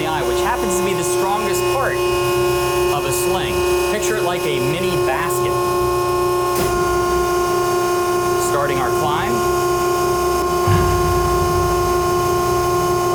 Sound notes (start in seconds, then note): 10.6 machine whirring